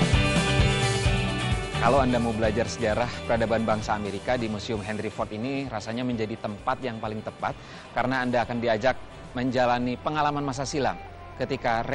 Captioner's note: non-english speech